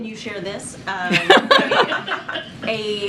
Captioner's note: laughter